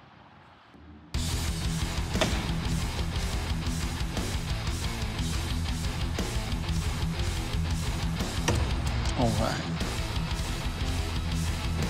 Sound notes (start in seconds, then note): 2.1 bang; 8.4 thump